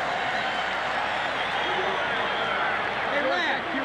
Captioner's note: crowd cheering